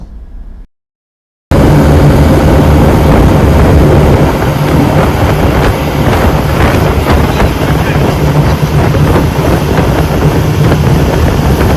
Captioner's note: sound of waves and wind